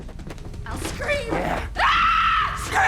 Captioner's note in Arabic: يصرخ